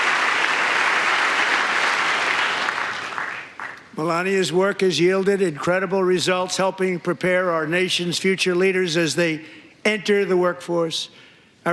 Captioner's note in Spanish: aplausos